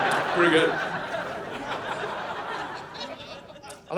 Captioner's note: audience laughing